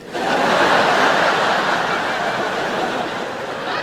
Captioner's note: audience laughs